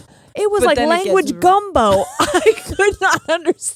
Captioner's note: laughing